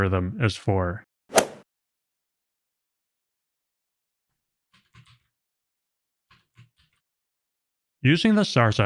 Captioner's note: golf ball hit sound effect